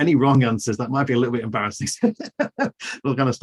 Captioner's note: laughs